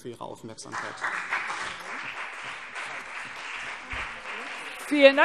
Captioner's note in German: Beifall BÜNDNIS 90/DIE GRÜNEN und CDU